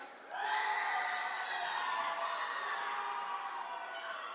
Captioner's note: attendees cheering